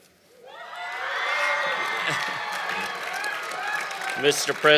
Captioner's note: cheering and Applause